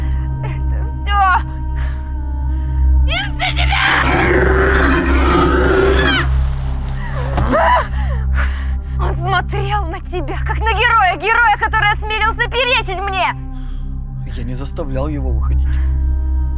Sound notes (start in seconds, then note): 3.6 snarl of a lynx